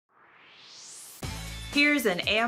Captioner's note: swoosh